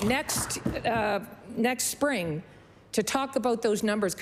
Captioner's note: applause